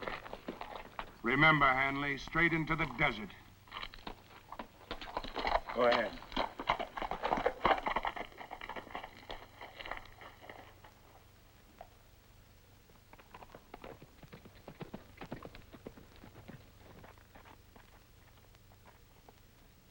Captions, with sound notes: Remember, Hanley, straight into the desert. Go ahead. (hooves clop)